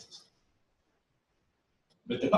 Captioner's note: pause